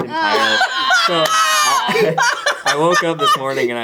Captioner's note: laughs